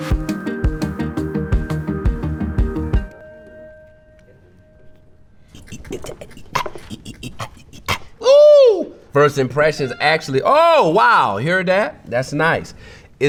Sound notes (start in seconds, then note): 0.0 calm music; 7.2 vocalizes